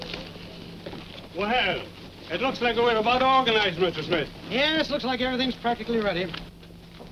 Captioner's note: none